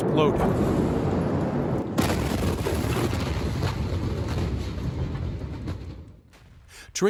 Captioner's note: explosion